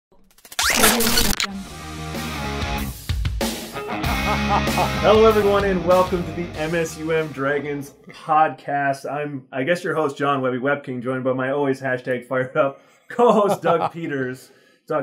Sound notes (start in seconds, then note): 1.4 rock music; 3.8 laughing